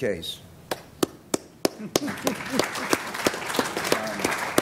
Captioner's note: applause